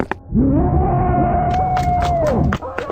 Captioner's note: faded roaring